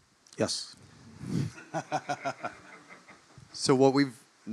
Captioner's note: laugh